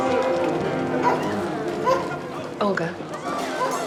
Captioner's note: dogs barking